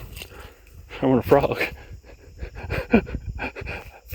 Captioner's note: chuckles